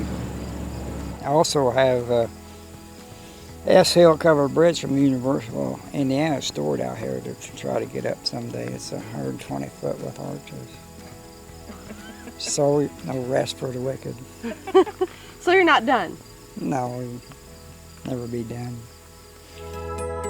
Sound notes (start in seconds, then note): 11.6 laughing